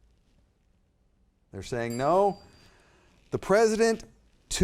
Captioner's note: timer dings